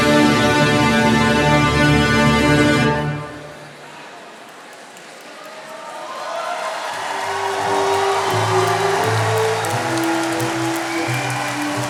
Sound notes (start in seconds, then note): 6.4 attendees cheering and applauding; 7.0 processional music continues